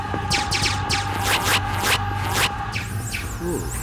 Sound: yelling; lasers firing

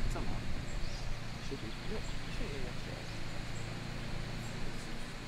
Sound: background murmuring

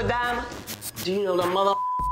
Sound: beep

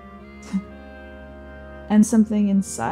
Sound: scoffing

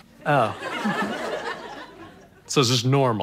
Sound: audience laughter

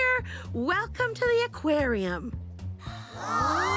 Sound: gasp

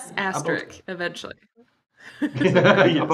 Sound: laughter

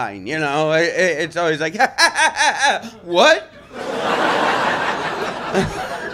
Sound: laughter

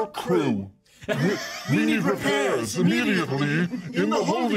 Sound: speaker laughs

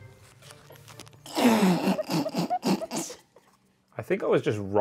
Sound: laughing

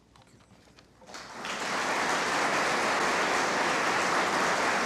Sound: audience applauding

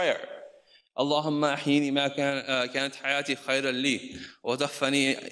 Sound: speaks in foreign language

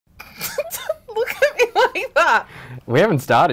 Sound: laughing

